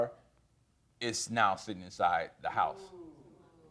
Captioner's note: audience gasps